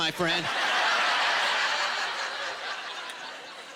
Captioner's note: laughter